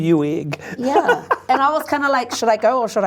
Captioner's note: laughs